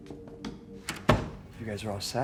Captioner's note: soft music; door clicking shut